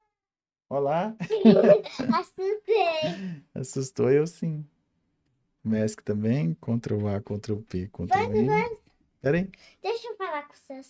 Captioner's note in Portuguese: risadas